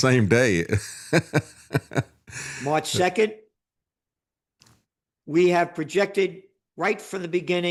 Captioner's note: laughs